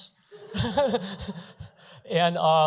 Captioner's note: laughter